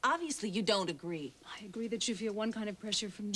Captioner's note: none